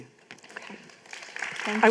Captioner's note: applause